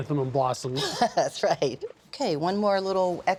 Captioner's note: chuckling